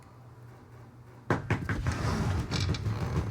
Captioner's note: knocking at door